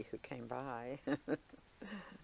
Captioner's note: laughing